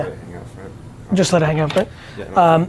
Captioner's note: none